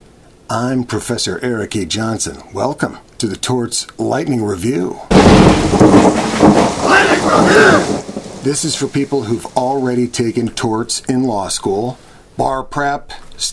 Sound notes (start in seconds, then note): 6.9 shouted voices